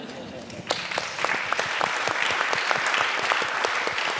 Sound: applause

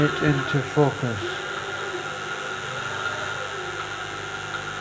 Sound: static buzz

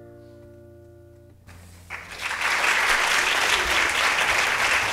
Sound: applause

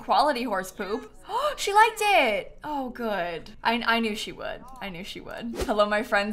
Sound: gasps

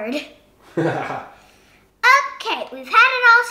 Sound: laughter

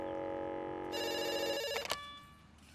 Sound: phone ringing

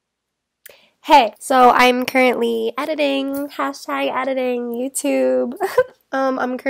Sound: laughs

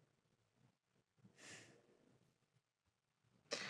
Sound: she sighs

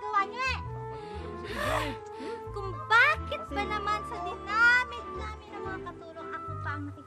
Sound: exhales

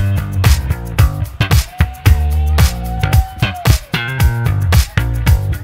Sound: audience cheers

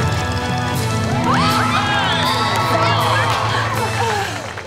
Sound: cheering

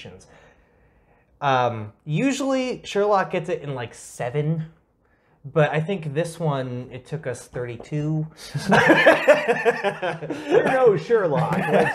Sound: laugh

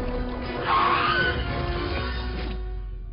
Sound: screeching

